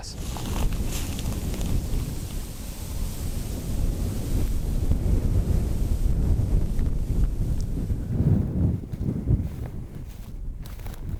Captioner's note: wind